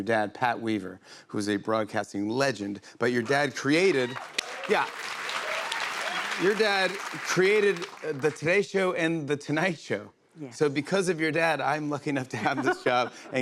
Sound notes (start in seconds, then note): 3.3 cheers and applause